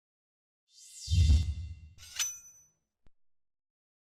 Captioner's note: logo swishing